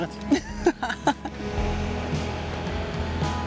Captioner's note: laughs